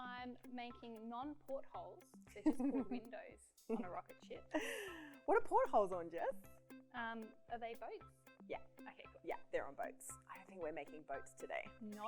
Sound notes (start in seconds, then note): 4.5 laughs